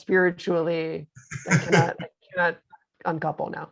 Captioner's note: laughing